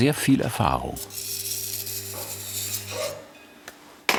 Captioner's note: scratching noise